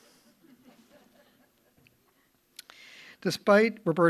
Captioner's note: audience chuckling